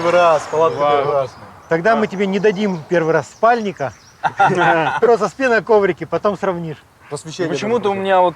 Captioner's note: laughing